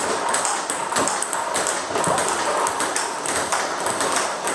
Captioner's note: ball ping pong hitting continues